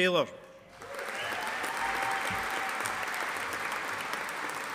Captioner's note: audience applauding